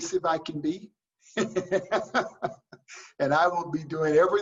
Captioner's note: laughs